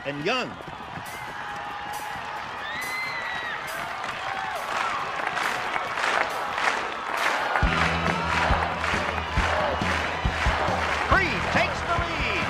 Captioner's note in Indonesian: bersorak